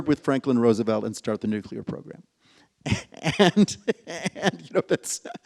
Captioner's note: laughs